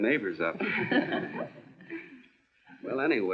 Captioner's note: laughing